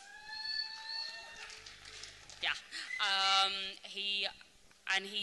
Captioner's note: applause